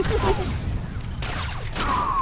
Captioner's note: laughter